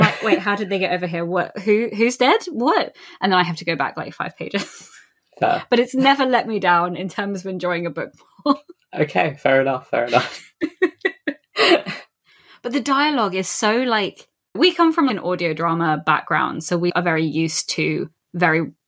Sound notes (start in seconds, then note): 5.0 laughs; 9.9 laughs